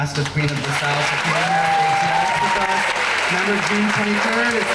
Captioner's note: crowd applause